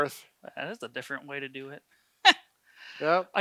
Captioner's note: laughs